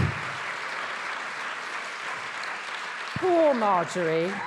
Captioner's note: attendees applauding